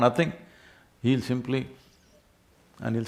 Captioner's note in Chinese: 嗅嗅